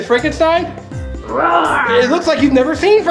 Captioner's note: Frankenstein roars